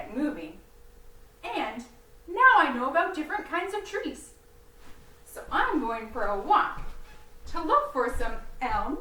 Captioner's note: walking